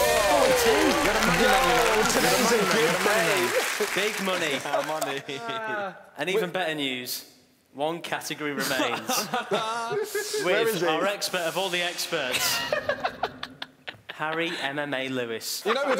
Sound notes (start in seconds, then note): 0.0 cheering; 8.6 laughing